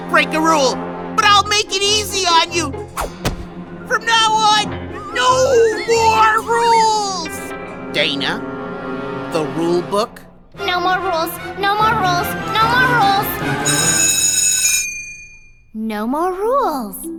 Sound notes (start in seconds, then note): 13.6 bell rings